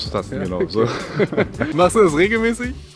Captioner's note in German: Lacher